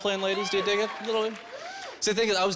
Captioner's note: women cheering